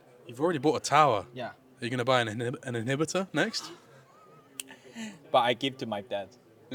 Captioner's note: laughs